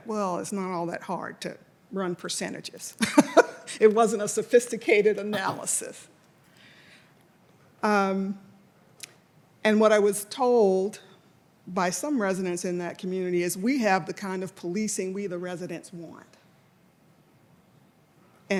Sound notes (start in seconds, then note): 2.7 laughs